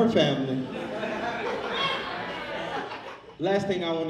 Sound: audience laughs

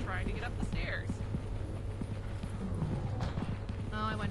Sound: foot steps, door woosh open and close

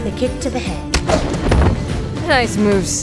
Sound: kick, thump

